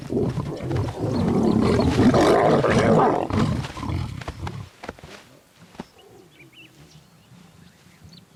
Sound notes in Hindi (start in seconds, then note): 0.0 शेर की गर्जना